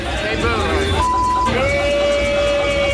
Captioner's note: record skipping; beep; patrons booing